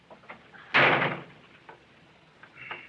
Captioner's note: door slams